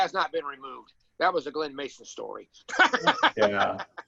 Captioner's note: laughs